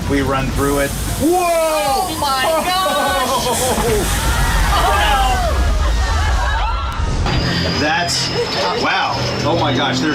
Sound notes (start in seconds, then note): 3.8 water splashing